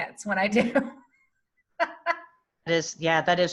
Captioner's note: laughing